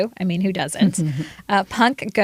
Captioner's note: laughter